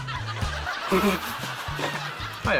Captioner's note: laughs